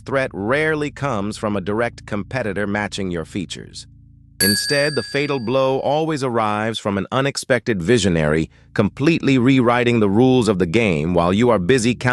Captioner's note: SFX: cash register ding